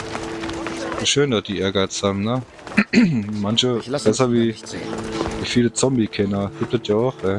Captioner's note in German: räuspern